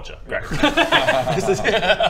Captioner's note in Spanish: risas